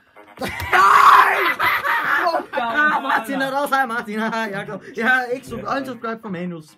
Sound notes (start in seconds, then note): 0.4 insane laughter